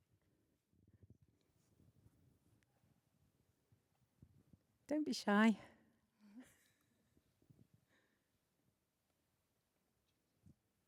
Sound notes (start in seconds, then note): 6.3 laughs